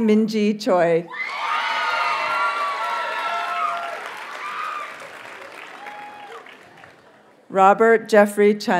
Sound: audience cheers and applauds

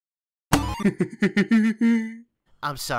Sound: giggling

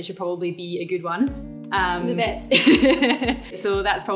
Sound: laughs

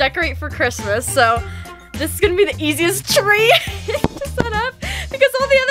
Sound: laughter

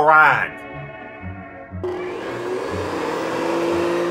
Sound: vacuum humming

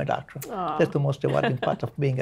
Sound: laughs

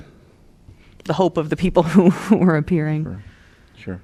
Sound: laughter

